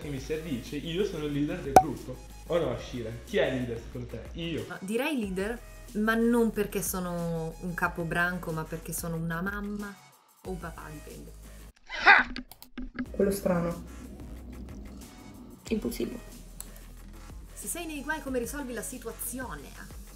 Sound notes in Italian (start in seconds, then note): 15.0 click